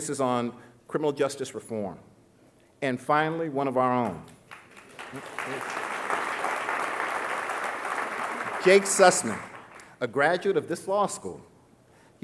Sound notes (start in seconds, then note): 5.1 audience laughing